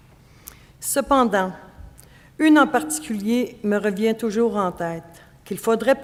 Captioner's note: speaking French